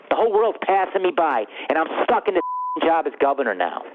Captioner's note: beep